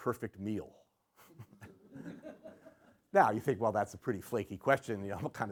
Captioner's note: laughter